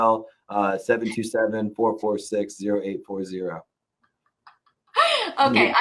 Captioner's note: laughs